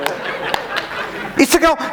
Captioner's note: laughing